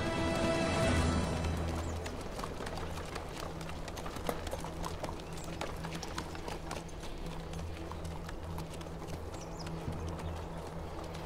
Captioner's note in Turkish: Nal ve kağnı sesleri